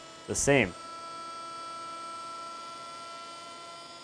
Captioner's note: buzzing